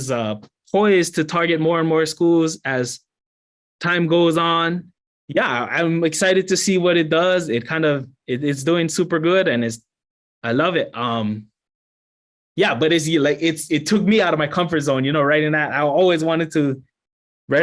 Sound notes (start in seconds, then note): none